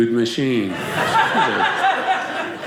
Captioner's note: audience laughing